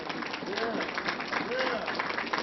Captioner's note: applause